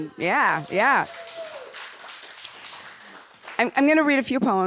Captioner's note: audience applauding